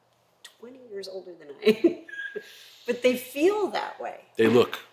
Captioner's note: laugh